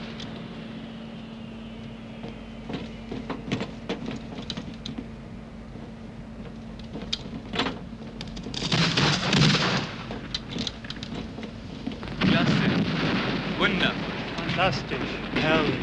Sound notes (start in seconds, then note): 10.6 speaking german